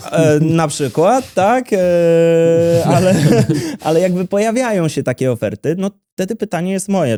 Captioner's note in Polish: śmiech